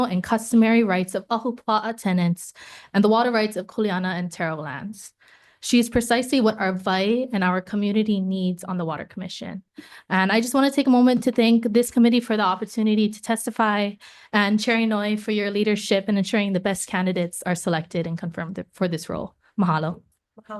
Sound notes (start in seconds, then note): none